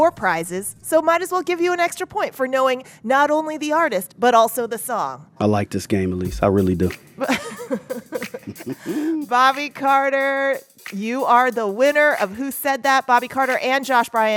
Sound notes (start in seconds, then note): 7.2 laughter